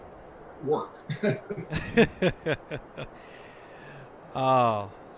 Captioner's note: laughs